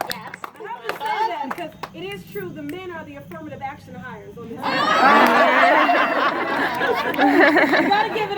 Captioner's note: laughter